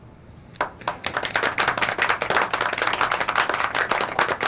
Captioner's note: all applauding